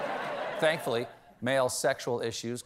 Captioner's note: laughter